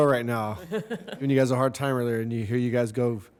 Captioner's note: laughter